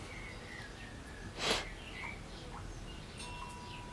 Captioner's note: sniffling